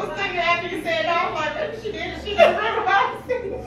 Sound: laughing

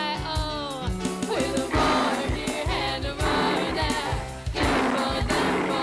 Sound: roaring

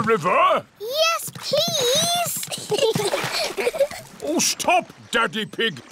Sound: giggles

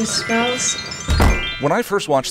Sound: lesbian subtext bell

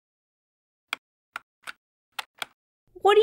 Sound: typing

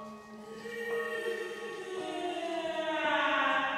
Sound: Lover wailing

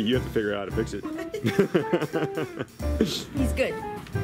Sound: laughs

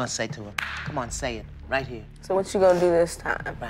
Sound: claps

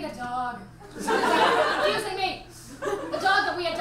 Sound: audience laughs

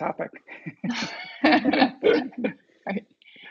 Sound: laughs

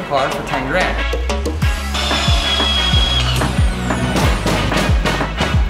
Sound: drill whirring; metal clanging

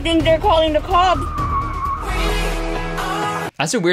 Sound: tires screeching

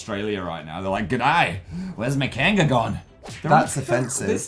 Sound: australian accent

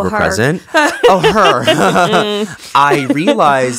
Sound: both laughing

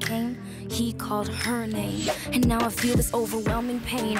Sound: none

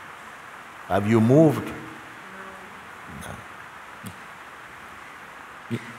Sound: voices in audience

